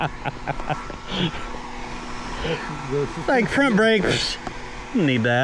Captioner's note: laughing